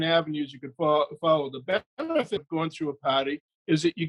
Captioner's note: audio distorts